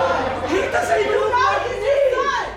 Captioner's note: groans